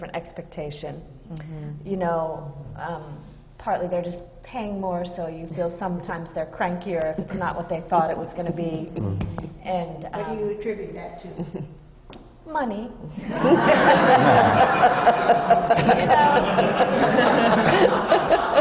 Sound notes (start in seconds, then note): 9.5 laughter from the panel